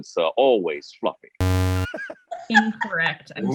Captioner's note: error sound